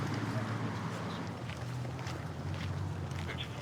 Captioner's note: footsteps